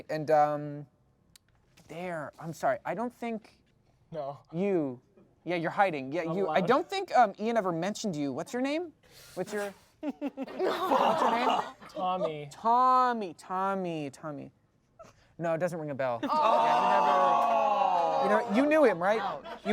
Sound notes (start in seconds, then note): 16.3 everyone groans